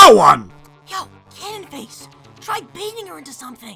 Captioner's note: whispering